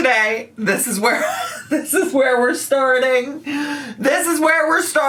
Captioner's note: laughs